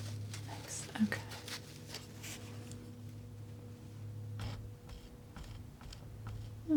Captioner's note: scratching